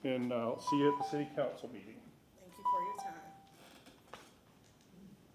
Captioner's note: bell sounds